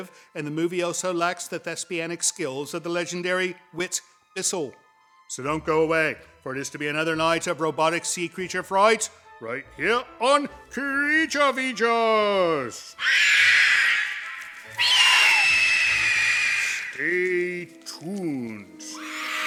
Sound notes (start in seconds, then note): 13.0 evil screeching